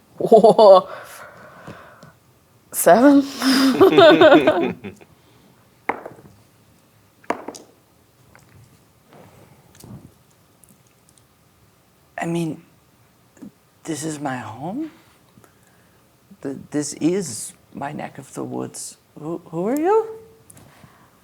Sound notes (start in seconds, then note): 3.2 chuckles; 5.5 dice rolling